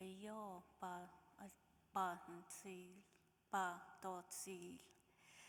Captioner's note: speaking in foreign language